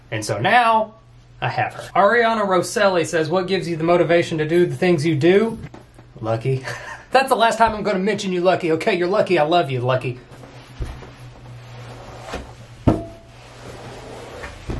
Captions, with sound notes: And so now I have her. Ariana Roselli says, "What gives you the motivation "to do the things you do?" Lucky. (laughs) That's the last time I'm gonna mention you Lucky. Okay, you're lucky I love you, Lucky.